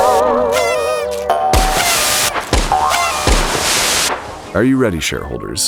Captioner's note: a dozen sproinging sounds, a party noisemaker